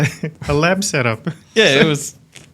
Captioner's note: chuckles